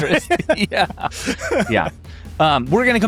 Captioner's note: people laughing